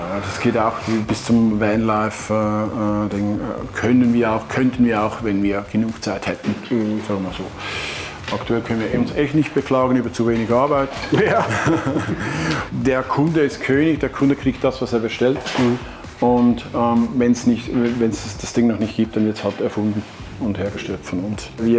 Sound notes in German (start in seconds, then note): 11.0 Gelächter; 11.0 lacht